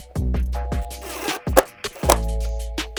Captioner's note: drill whirring